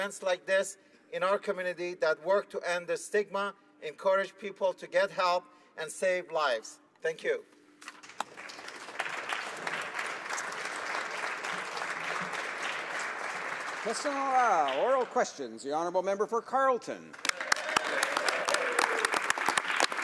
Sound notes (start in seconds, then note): 11.0 applause